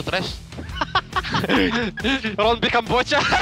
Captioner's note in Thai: หัวเราะหนักมาก